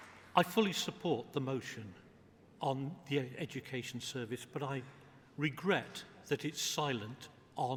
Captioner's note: applause